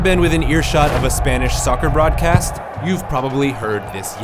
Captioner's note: audience cheering